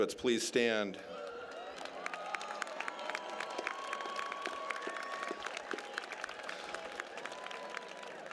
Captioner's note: applause